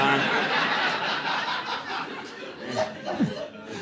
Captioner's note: audience laughing